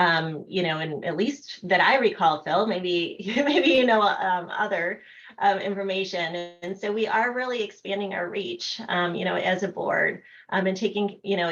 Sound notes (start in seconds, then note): 3.2 laughter